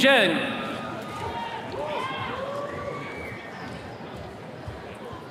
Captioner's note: attendees cheering